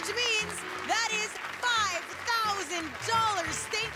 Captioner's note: applause